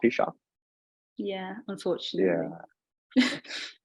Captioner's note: both chuckling